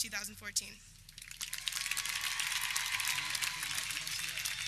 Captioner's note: audience cheering